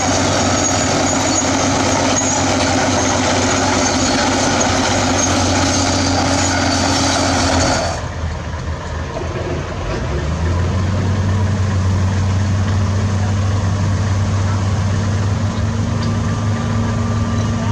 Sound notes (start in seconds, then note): 6.6 excavator Engine Idle Sound